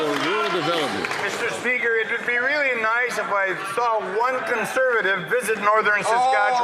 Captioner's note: some Applause